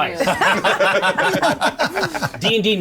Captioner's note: players laughing